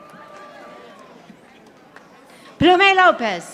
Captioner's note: audience applauding